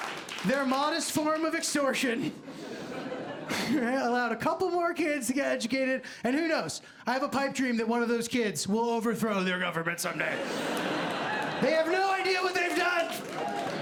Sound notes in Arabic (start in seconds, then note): 10.3 ضحك